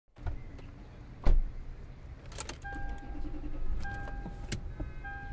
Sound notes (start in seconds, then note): 1.2 car door closing; 2.3 car dinging